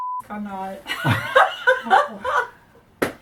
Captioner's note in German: lachen